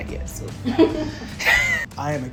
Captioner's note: laughing